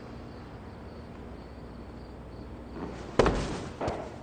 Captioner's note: crickets stridulate